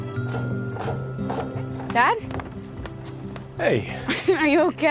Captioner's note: footsteps approaching